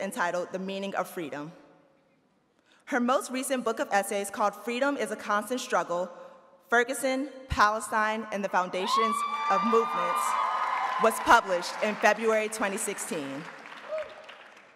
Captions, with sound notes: entitled the Meaning of Freedom. Her most recent book of essays called Freedom is a Constant Struggle: Ferguson, Palestine, and the Foundations of a Movement (audience cheering) was published in February 2016.